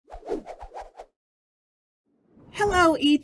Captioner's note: air whooshing